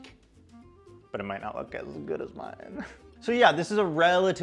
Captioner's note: giggles